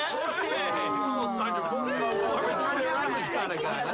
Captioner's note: crowd chattering